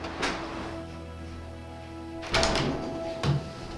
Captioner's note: noise of the door opening